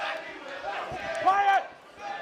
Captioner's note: fans chanting